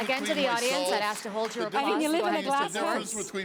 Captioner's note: applause